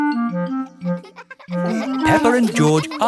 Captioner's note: children laughing